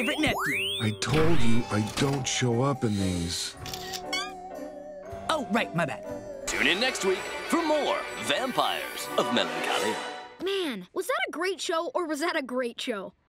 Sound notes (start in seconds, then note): 3.6 camera shuttering